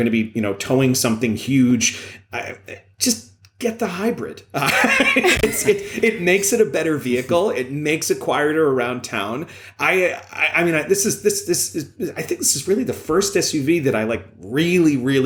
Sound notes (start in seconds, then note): 4.6 laughter